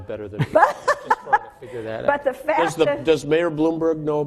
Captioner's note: laughing